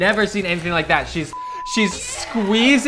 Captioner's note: beep